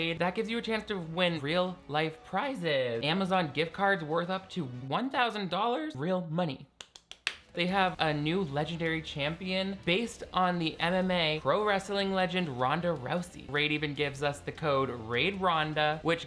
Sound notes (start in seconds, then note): 6.8 clapping